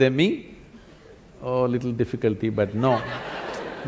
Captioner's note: laughter; 笑聲